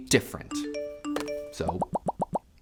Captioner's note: phone chimes